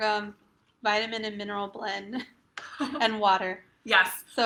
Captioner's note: chuckles; laughs